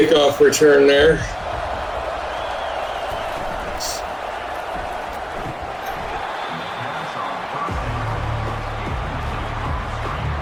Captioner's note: crowd Noises